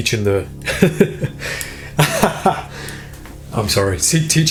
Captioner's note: laughs